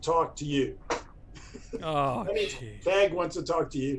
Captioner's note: laughter